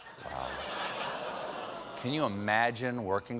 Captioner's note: audience reacts